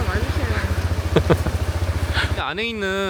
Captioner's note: laughs